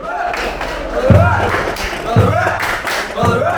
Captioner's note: clapping